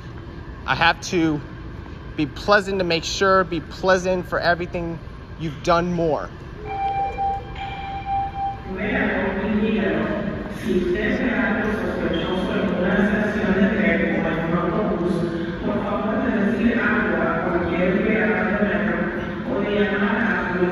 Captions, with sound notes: I have to be pleasant to make sure, be pleasant for everything, -you've done more. -[announcements bell dinging] [announcements speaking]